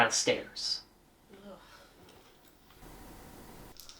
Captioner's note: groans